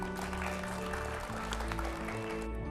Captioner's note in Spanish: Aplauso